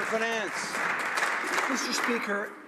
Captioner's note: some Applause